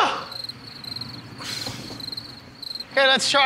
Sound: crickets

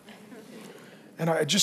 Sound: congregation laughing

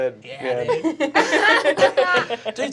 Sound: laughter

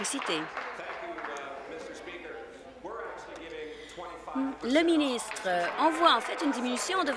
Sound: applause

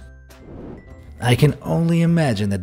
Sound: air whooshing

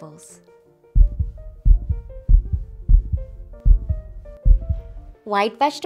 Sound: heartbeat sound

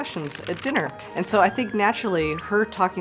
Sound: cards rustling

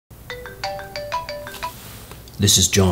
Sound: ringing

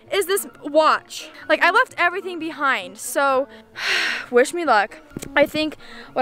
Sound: sighs

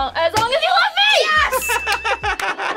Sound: audio dings; laughing

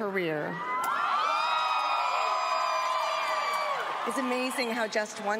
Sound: cheering

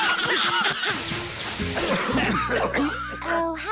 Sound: coughing

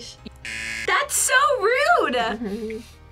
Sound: buzzer

